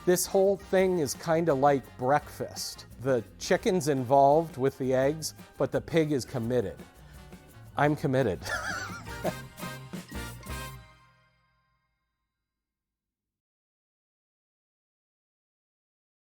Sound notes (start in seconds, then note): 8.4 laughing; 9.8 upbeat music